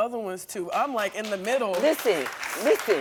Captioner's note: audience applauding